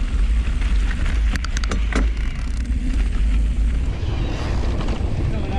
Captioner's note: dirt rustling